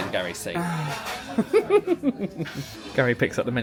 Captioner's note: sighs; laughs